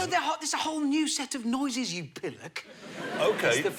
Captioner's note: laughter